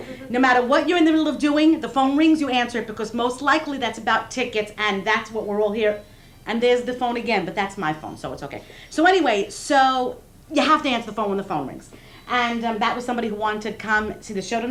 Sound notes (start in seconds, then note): 6.4 phone ringing